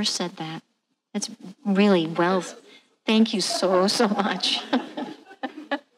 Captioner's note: laughing